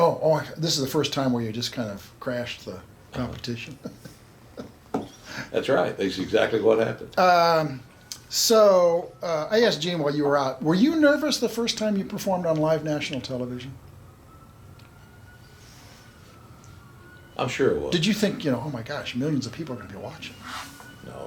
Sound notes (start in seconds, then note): 3.5 chuckles